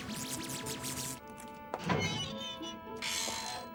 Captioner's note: zapping; metal creaks